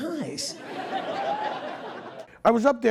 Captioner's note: audience laughing